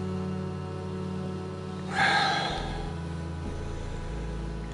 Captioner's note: sighing